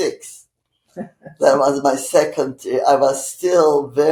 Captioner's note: laughing